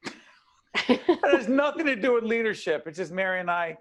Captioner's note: both laughing